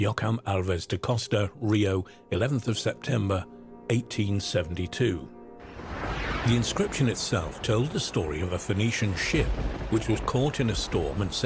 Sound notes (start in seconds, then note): 5.6 thunder crashing